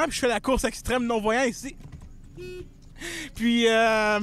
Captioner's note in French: coup de klaxon